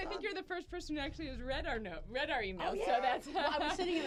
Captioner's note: laughter